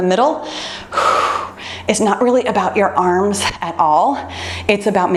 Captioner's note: exhales deeply